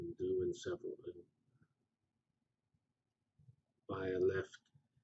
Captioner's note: pause